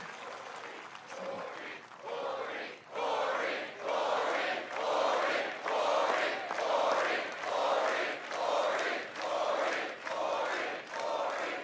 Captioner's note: cheering